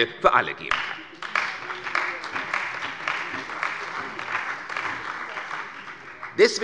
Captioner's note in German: Beifall bei der CDU und dem BÜNDNIS 90/DIE GRÜNEN